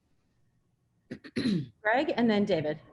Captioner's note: clearing throat